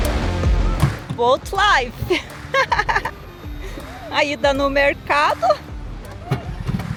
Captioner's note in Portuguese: risadas